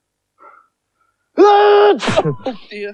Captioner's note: loudly Sneezes Again